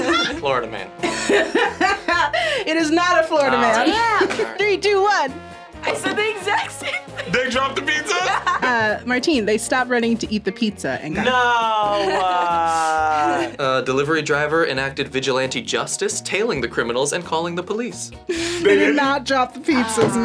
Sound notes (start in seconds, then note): 1.0 group laughs; 1.0 laughs; 6.0 laughs; 11.9 laughs